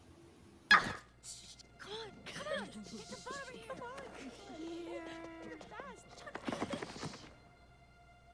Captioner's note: whispering